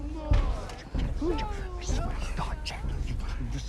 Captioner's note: whispering